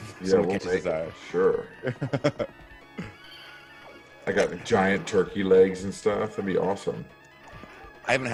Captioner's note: laugh